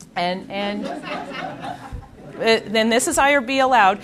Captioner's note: audience laughing